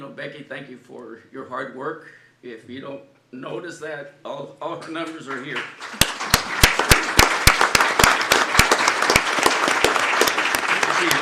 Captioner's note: applause